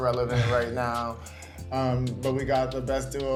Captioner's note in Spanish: Odessa ríe